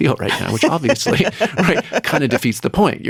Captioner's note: laughing